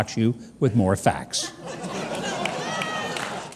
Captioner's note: audience laughs